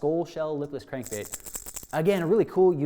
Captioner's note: bait rattling